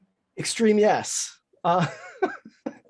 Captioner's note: laughs